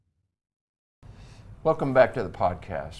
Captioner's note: air swooshing